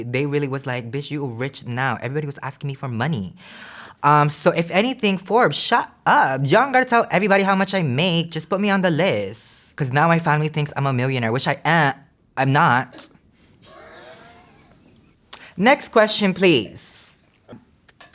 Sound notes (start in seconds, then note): 13.6 staff laughs; 17.9 drums tutting